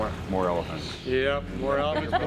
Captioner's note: woman laughing